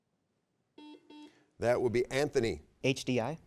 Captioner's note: buzzer beeps